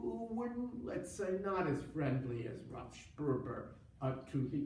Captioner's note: foreign language